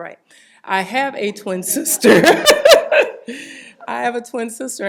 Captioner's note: laughs